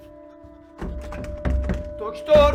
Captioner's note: rattling the doorknob